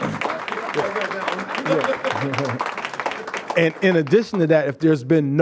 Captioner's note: applause